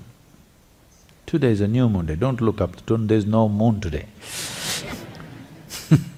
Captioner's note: laughter